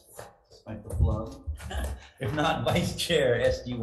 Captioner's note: chuckles